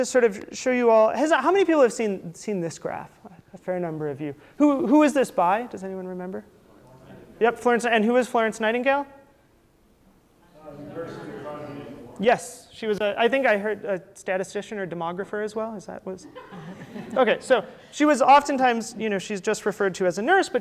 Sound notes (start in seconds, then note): 10.5 audience speaking; 16.2 laughter